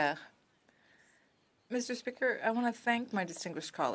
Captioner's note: speaking French